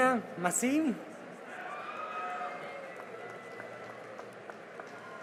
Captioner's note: cheering and applause